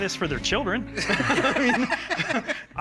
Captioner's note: laughter